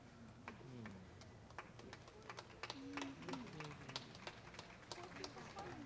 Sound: applause

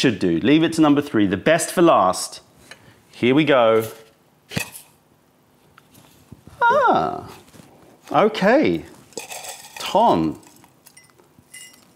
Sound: opening can

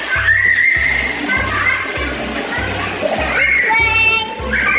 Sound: children screaming

